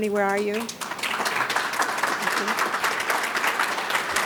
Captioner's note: audience claps